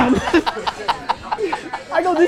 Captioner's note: laughs